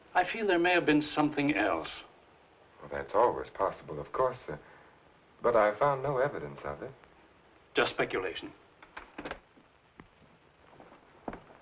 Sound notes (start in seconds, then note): 8.9 door rattling